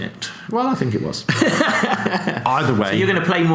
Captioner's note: laughs